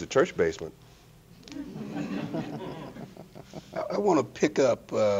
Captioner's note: audience laughing